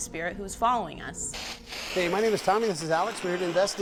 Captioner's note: radio static